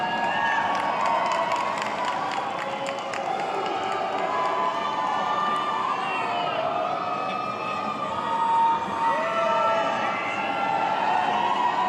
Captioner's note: applause